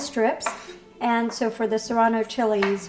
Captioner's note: chopping onion